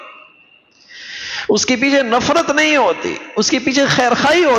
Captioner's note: sigh